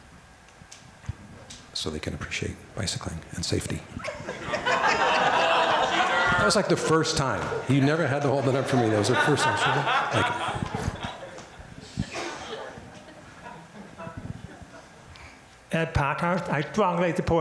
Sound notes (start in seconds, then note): 3.9 crowd laughter